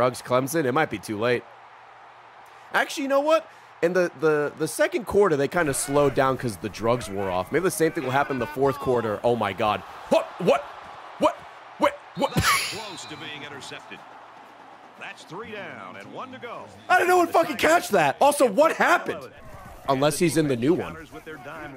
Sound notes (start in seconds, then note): 15.1 laughs